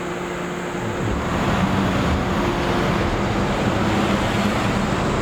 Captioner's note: car engine revving